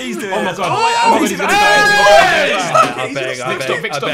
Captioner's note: yelling